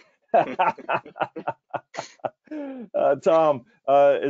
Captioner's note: hearty laughing